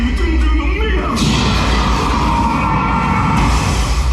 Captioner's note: speaking Japanese; loud commotion; energy blast, crash sound